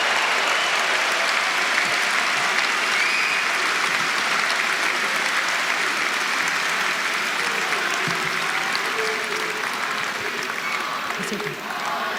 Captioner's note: applause